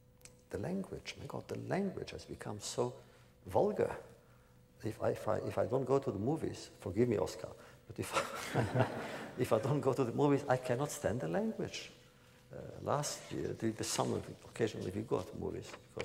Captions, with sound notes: The language, my God, the language has become so vulgar. If I don’t go to the movies, forgive me, Oscar, (laughter) if I don’t go to the movies I cannot stand the language. Last year, the summer occasionally we go out to movies